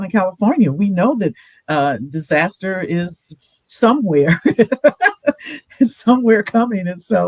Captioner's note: laughs